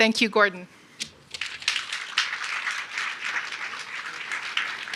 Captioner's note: audience applauds